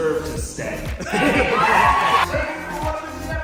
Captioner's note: audience cheers